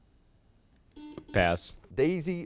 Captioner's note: buzzer sounds